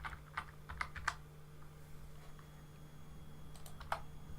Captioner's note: keyboard typing